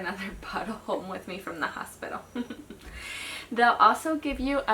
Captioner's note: chuckles